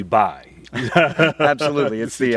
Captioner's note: both laugh